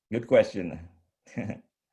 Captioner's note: chuckles